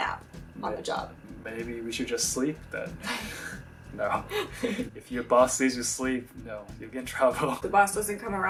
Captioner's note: laughs